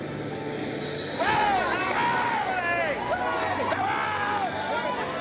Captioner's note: cheering